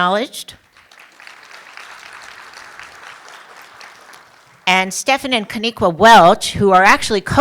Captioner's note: applause